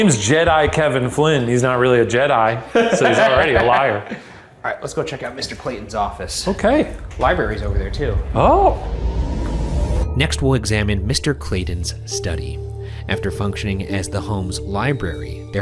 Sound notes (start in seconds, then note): 2.7 laughing